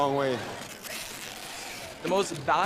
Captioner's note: tape screeching